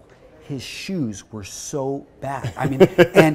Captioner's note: laughs